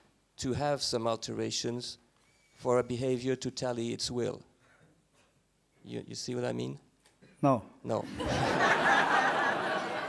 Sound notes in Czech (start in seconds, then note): 8.0 smích